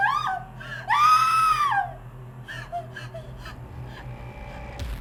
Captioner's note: person screaming